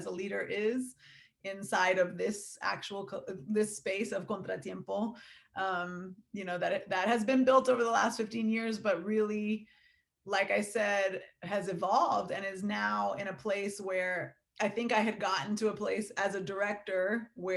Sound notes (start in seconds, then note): none